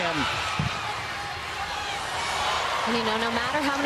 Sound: crowd cheering

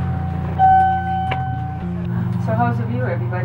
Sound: elevator beeping

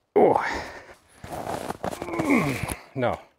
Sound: grunting

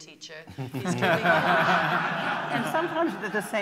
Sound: laughter

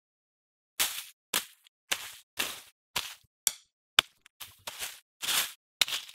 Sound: hitting sounds

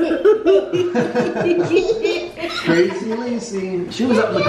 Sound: laughing

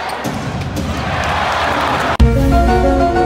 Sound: audience cheering; ominous music

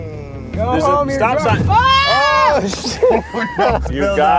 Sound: yelling

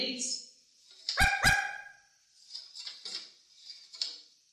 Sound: Pickles barks

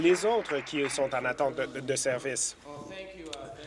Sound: applause

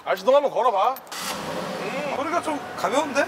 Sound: the sound of a successful engine

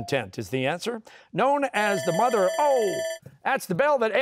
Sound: bell ringing

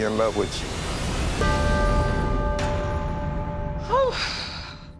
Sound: bell rings; sighs

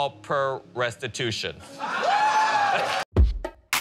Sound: laughter, cheers, applause

